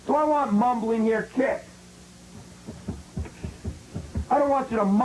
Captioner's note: feet thumping